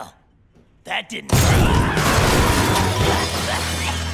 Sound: Fizz yelling

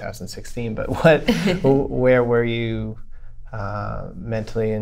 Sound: laughter

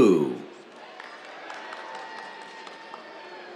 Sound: cheers, applause

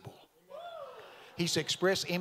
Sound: audience cheering

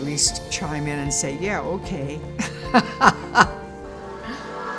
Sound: laughs

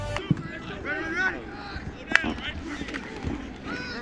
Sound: players yelling

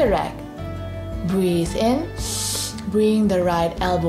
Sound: breathes in deeply

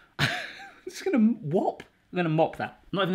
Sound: chuckling

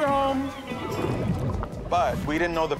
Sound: water bubbling

